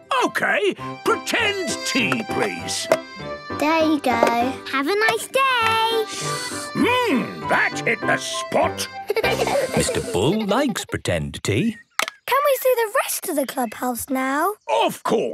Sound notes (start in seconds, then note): 6.4 slurping; 9.0 giggling